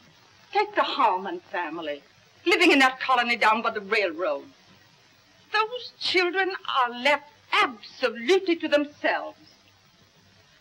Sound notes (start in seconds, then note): none